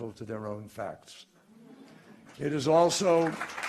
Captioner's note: laughter and applause